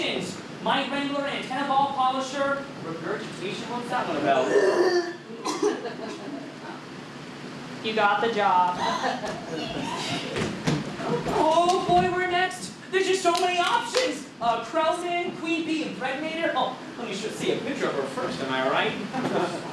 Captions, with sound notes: Mite wrangler, antennae ball polisher, regurgitation— what’s that one about? (vomit noise) -You got the job. -Oooh, boy! We’re next! There’s just so many options! Krelman, Queen Bee Impregnator? Let me see a picture of her first, am I right..?